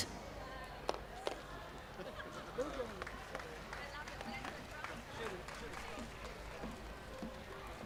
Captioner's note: applause